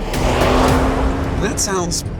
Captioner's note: dramatic music continues; engine revs